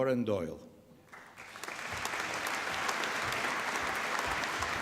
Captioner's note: applause